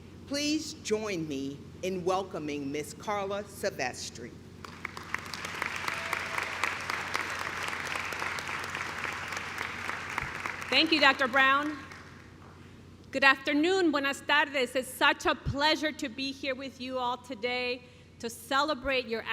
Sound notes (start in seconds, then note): 11.6 clapping